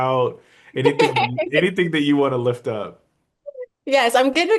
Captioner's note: laughs